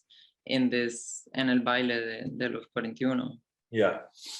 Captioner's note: speaks in foreign language